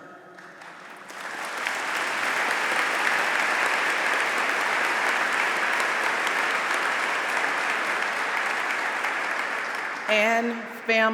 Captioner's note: applause